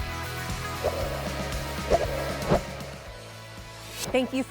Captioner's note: swiping sound